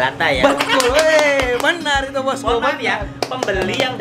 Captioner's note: clapping hands